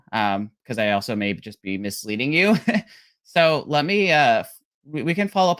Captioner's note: laughs